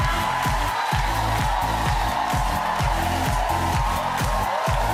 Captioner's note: audience cheering; upbeat music